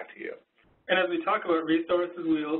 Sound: voiceover

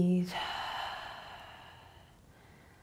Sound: exhaling

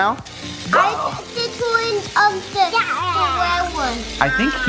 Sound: shouts of excitement

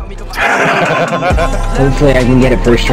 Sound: laugh

